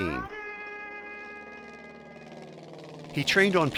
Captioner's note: airplane engine whirring